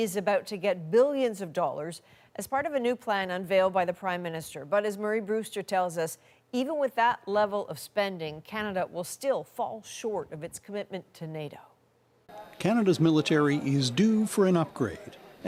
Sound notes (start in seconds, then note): none